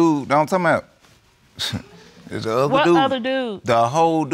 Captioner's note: scoffs